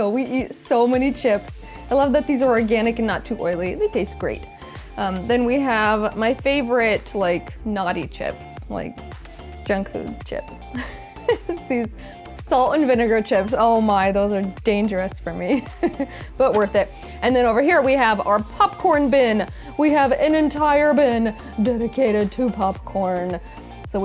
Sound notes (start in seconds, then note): 10.8 laughs